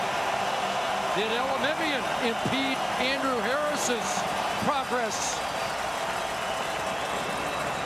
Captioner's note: crowd Noise